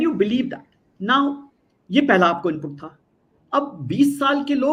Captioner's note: non-english speech